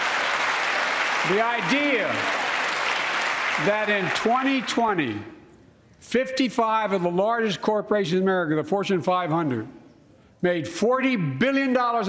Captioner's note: applause